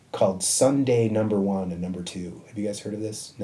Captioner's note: none